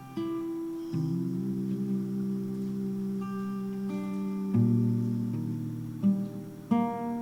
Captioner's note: humming